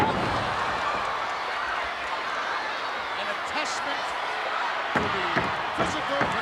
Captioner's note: applause